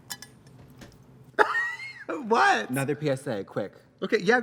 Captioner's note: laughs